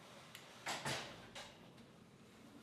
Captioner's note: clattering